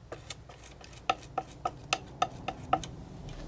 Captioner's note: scratching